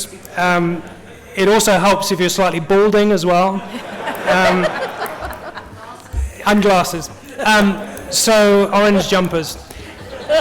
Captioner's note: laughter